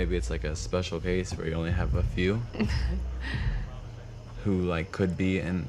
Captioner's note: chuckles